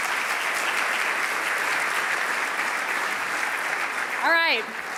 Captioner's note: audience applauding